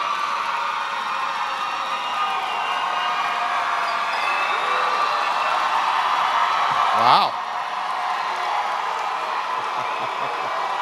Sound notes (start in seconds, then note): 7.0 cheering